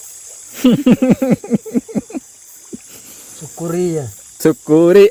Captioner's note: laughs